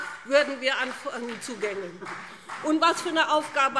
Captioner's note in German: Beifall BÜNDNIS 90/DIE GRÜNEN und CDU